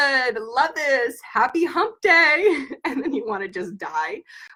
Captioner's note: giggles